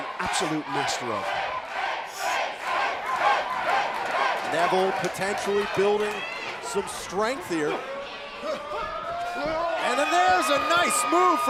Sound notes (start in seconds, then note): 1.7 crowd cheering